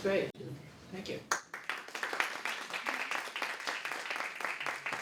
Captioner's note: applause